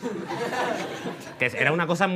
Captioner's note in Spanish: Risas